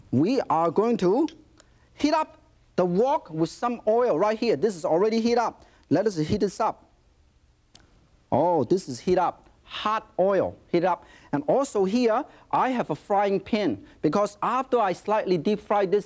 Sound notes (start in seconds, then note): none